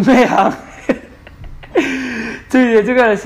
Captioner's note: chuckles; laughs; gasps